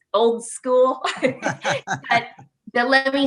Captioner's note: laughing gently